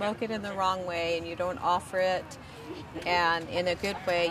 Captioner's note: laughter